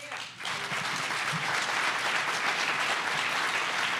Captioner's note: audience applause